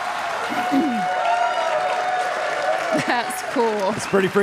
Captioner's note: audience applauding